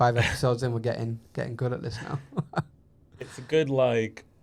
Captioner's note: laughs